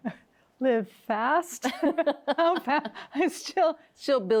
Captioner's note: both laughing